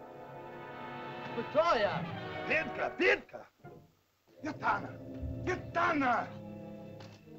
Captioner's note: soft dramatic music; speaking in caveman language; soft dramatic music